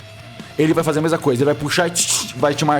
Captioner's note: cut sound